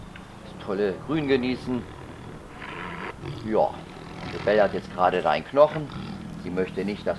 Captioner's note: tiger sounds